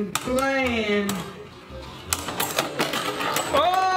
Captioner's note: metal and plastic clanking